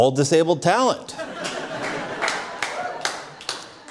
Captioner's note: cheering and Applause